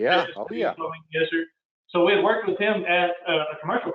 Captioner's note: murmurs